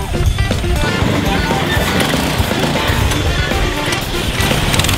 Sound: engines roaring; upbeat rock music

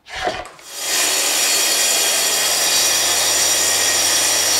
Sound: cutting wood

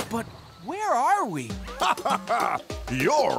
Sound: laughs

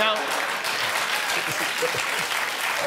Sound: applause

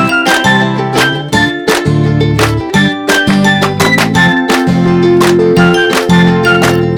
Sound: applause; applause

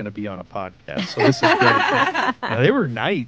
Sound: hosts laughing

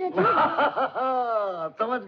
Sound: laughing

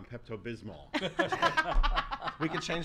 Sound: laughs

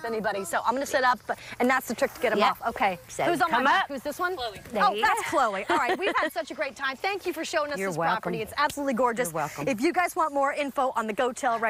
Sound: laughter

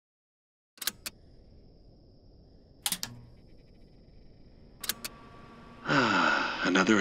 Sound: button clicks

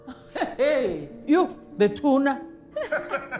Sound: laughs and responds in Xhosa

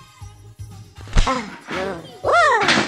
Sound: punch!

